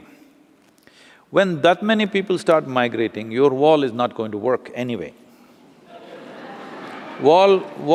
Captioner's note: laughter